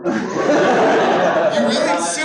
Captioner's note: laughter